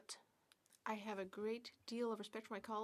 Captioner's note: speaking French